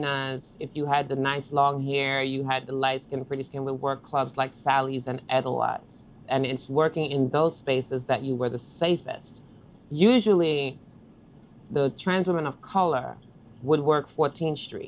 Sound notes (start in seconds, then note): none